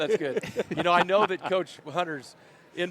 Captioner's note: laughter